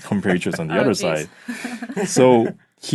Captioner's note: laughing